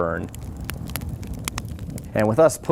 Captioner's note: fire crackling